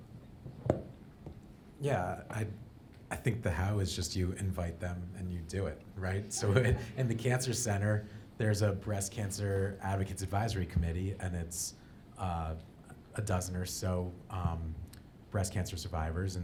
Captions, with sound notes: - Yeah, I think the how is just you invite them and you do it right? (audience laughing) So in the cancer center there's a Breast Cancer Advocates Advisory Committee and it's a dozen or so breast cancer survivors,